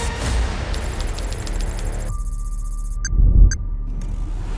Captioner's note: keyboard clacking; machine beeping